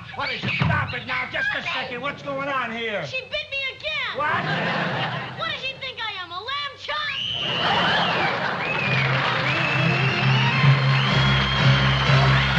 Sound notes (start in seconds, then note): 7.4 screaming